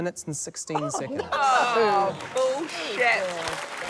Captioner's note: applause